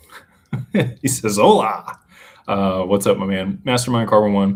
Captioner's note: laughter